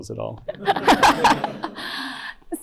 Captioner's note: laughter